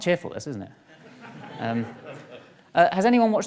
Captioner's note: audience laughs